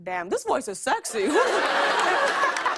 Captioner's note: laughter and applause